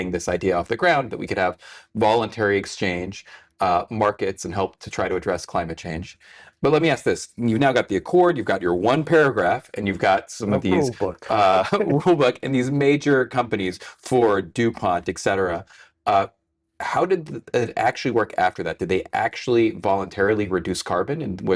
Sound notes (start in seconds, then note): 10.5 laughs